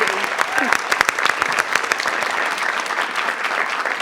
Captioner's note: audience clapping